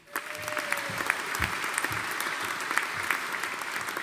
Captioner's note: audience applauding